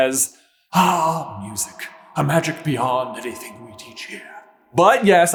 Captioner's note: echoey and thereal